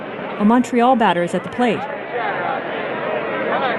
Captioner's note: crowd noise